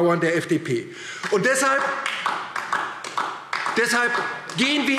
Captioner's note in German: Beifall DIE LINKE